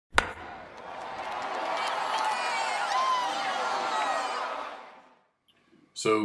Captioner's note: crowd cheers